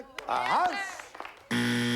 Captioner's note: buzzer